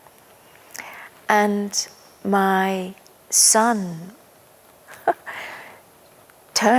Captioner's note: chuckles